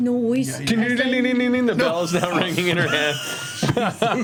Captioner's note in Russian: звон